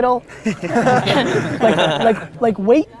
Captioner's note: group laughter